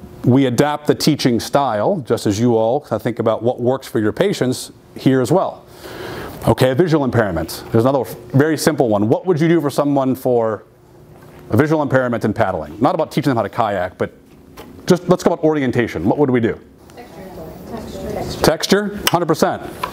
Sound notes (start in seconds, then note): 17.0 people chattering